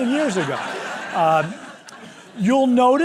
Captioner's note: laughter